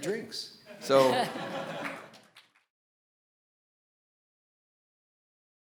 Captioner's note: audience laughing; audience applauding